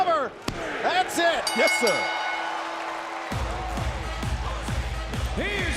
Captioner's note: bell ringing